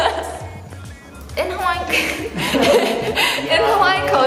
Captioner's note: laughs